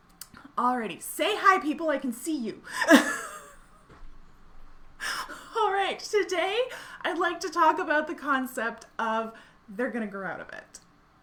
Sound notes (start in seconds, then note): 2.6 laughing